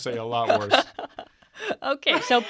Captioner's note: laughing